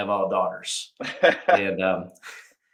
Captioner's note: chuckles